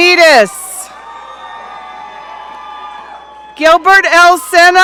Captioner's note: audience cheering